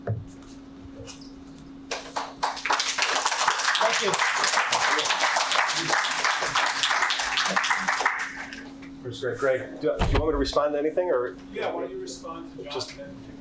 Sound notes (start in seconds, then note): 1.9 participants applaud